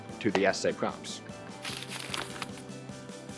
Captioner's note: light music; paper rattling